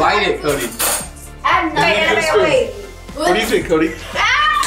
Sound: group chattering; laughing

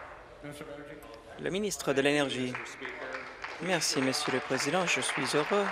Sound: applause

